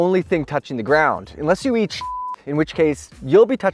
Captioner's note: beep